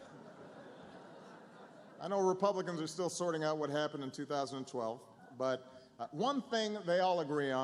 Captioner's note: laughter